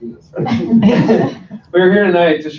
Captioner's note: laughter